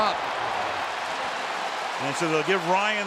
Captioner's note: applause